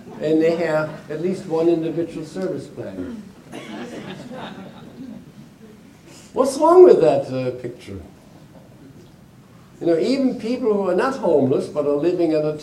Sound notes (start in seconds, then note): 2.9 audience chuckling